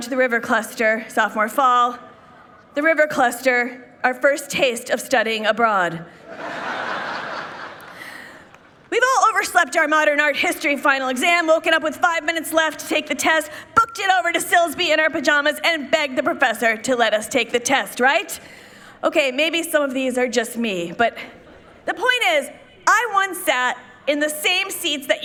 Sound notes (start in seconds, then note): 6.2 people laughing